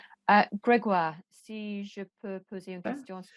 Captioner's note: speaks French